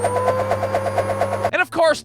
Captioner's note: vrrrrrrrrrrrrrrrrrrr